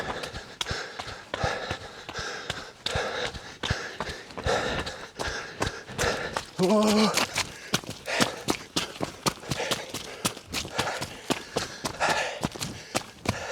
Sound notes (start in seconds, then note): 1.7 footsteps stomping; 1.7 runner panting; 8.3 footsteps stomping; 8.3 runner panting